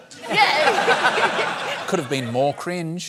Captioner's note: laughter